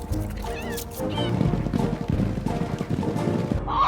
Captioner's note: cat meows; llamas stampeding